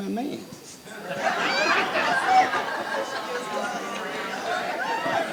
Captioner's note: crowd laughs